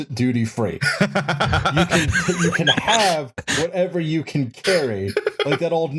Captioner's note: laughs